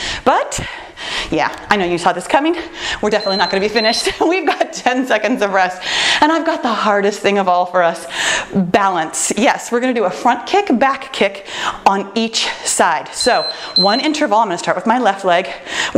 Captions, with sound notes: But yeah, I know you saw this coming. (timer beeps) We're definitely not going to be finished. We've got ten seconds of rest. And I've got the hardest thing of all for us. Balance, yes we're gonna do a Front Kick Back Kick on each side. (timer beeps) So one interval, I'm gonna start with my left leg,